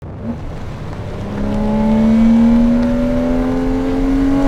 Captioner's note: car engine revving